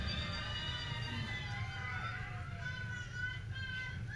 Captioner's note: people cheering